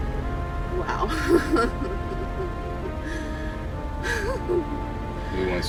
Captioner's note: laughing